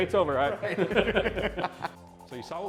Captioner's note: laughs